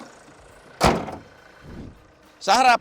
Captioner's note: hoods thud